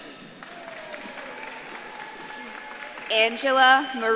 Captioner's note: audience claps and cheers